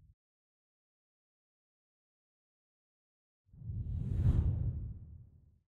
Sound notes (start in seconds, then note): 4.0 air whooshes